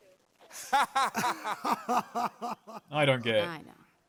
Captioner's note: laughs; laughs too